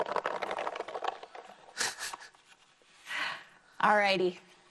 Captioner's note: foil balls rattling